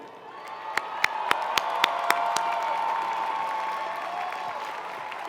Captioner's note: audience cheering and applauding